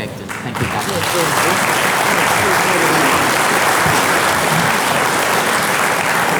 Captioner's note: audience clapping